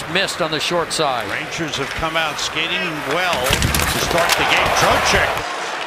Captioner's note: applause